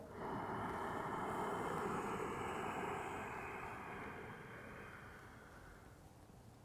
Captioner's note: deep breathing